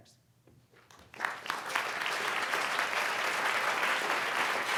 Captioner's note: audience applauding